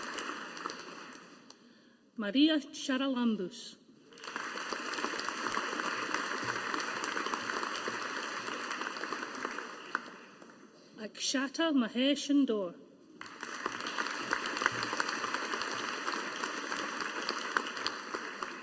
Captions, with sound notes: Maria Charalambous. (AUDIENCE APPLAUDING) Akshata Mahesh Indore. (AUDIENCE APPLAUDING)